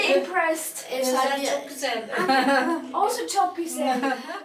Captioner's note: in Turkish